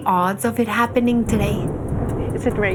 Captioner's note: thunder